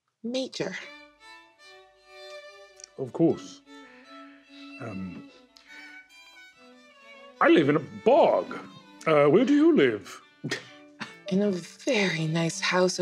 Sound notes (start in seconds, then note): 1.2 violin music starts; 10.4 Oscar laughs